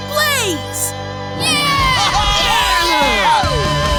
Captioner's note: cheering